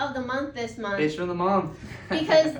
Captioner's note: chuckling